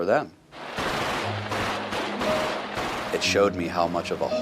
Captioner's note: automatic weapons chatter